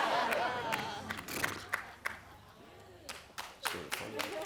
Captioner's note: audience laughing